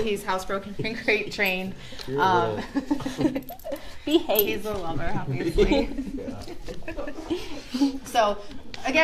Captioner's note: laughter